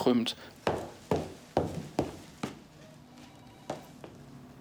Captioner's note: footsteps